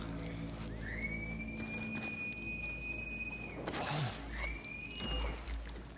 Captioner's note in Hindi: सीटी की आवाज़